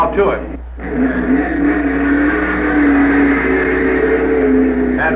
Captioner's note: engine roaring